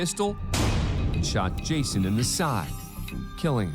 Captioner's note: gunshot